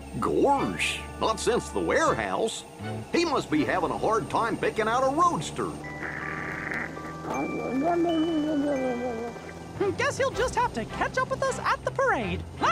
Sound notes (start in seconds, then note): 7.2 snoring, babbling